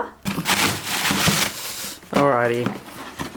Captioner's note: plastic bag rustling; box rustling